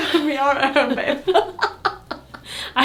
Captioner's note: laughing